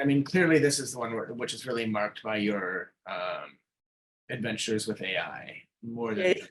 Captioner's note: chuckling